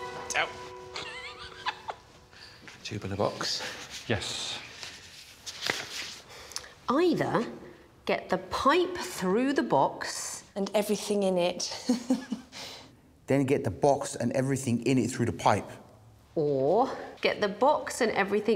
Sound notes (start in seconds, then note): 0.9 laughs; 6.6 paper rustling; 14.2 laughs